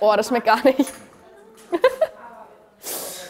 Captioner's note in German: lacht